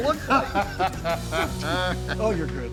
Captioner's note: laughing